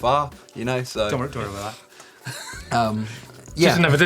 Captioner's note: laughter